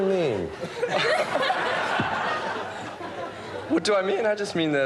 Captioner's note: chuckles